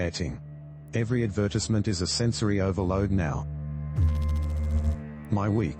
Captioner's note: electrical noise